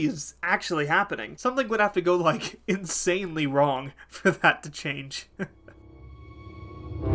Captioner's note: laughing